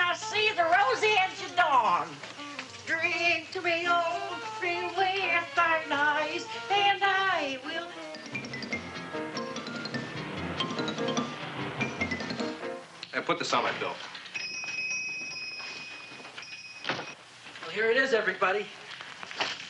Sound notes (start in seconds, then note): 8.3 unsteady tense music; 14.3 doorbell jingling